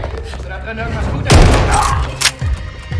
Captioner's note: gunshot